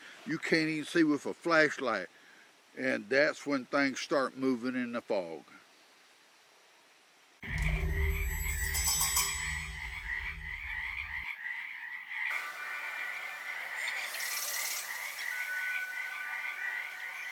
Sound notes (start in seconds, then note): 7.4 eerie music; 7.5 frogs ribbiting; 14.2 insects chittering